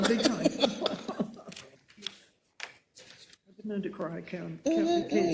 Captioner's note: laugh